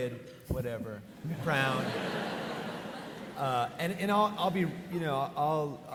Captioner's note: audience laughing